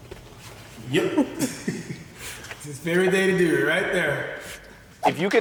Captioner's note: laughs